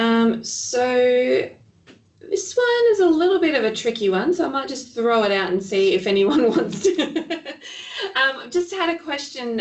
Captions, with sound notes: This one is a little bit of a tricky one. So I might just throw it out and see if anyone wants to (laughing). Just had a question, curial,